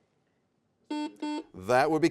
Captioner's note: buzzer sounds